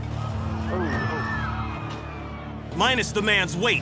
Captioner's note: people screaming